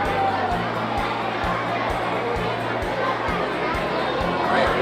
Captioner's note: crowd muttering